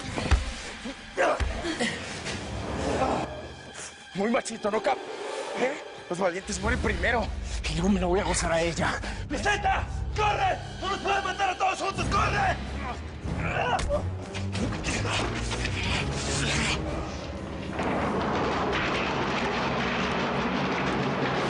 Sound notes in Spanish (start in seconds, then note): 14.5 Ruido de puñetazos; 17.6 Ruido al caer los bidones